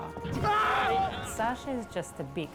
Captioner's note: yelling